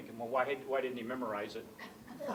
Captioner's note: laughter